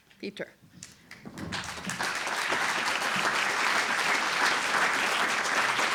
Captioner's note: applause